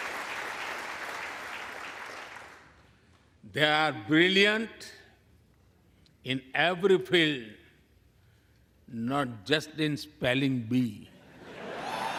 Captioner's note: applause